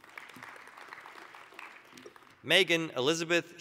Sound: applause

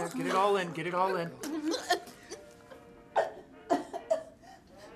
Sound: coughing

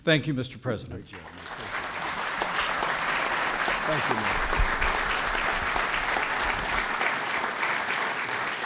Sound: applause

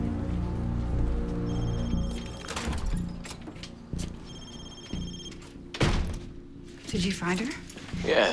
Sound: cellphone ringing

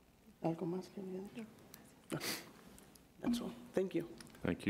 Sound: speaks in Spanish

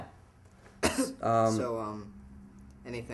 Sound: clearing throat

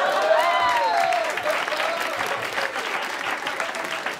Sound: cheering and applause

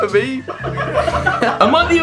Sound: laughing

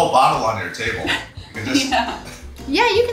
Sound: laughs

